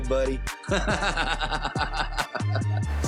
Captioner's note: laughs